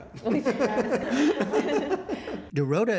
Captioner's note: laughter